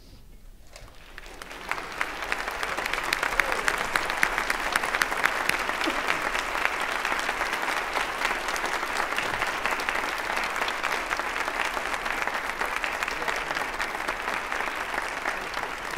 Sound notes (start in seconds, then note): 0.7 applause